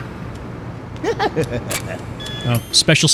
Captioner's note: laughter